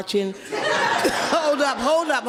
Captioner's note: spectators laugh